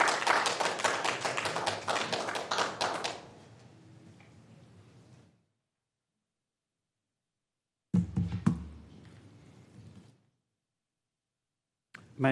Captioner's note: applause